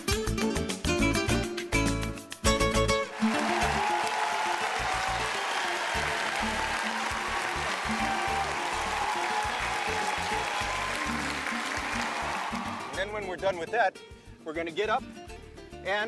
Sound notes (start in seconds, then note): 4.0 cheering